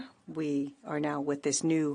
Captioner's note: speaking in French